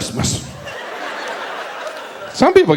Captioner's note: audience laughs